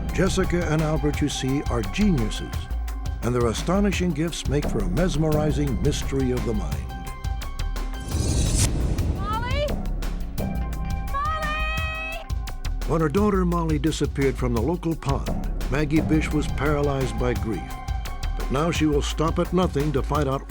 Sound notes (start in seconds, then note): 8.2 yelling